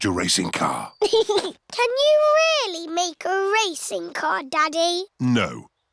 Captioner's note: chuckles